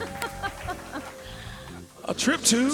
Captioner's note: laughing